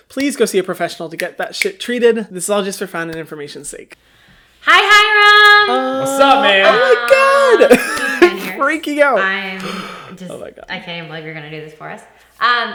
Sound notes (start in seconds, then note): 5.8 laughs